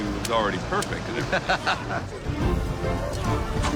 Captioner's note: mcnally laughs